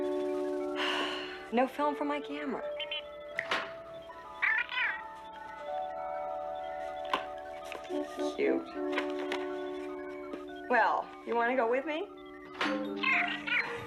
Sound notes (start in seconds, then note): 0.8 sighs; 3.3 Steve Trevor snaps his Fingers